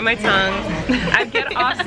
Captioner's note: laughing